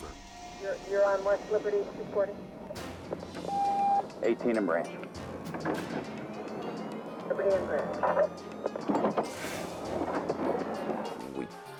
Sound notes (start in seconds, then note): 3.4 radio beeps; 6.0 police sirens wailing